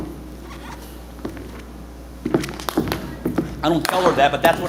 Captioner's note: boots squeaking